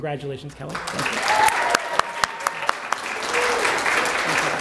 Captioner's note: applause